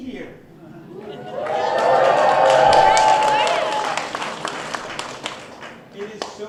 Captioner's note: applause